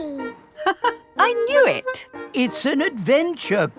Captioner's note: laughs